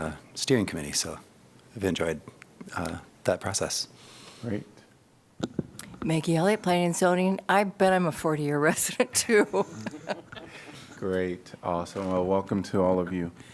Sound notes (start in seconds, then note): 8.9 laughter